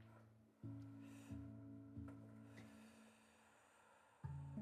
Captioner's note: exhaling